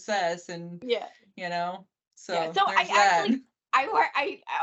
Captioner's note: laughing